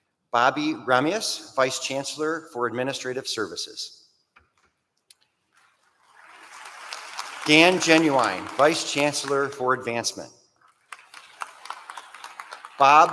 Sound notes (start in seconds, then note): 6.0 applause